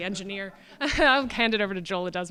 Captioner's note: laughing